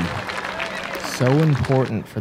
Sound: cheering

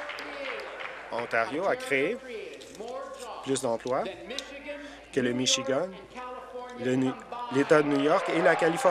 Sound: applause

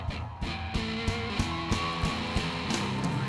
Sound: cheers and applause

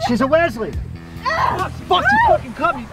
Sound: a groan

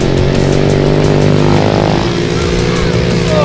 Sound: voiceover

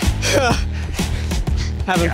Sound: panting

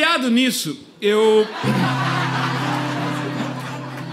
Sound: applause

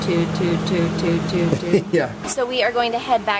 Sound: laughs

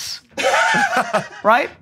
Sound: laughter

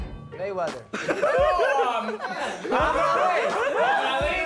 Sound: laughing

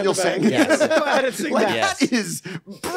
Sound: all laughing

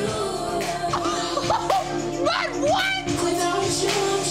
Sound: laughing joyously

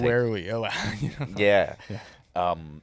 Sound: laughing

